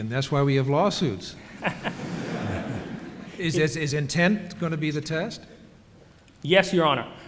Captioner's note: laughter